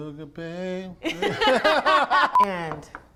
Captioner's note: both laugh